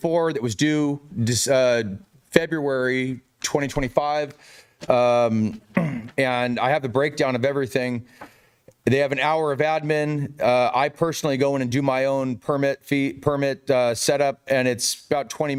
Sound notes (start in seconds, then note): 3.1 clears throat